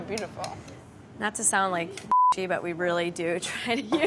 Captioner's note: beeping